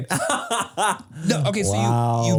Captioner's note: Manny laughs